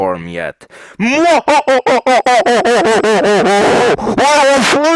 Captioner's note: evil laughter